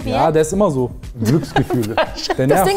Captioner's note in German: lachend